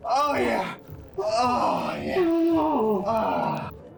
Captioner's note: moaning